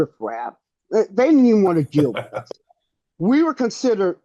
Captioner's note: laughs